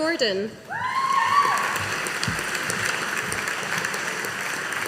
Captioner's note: audience applauding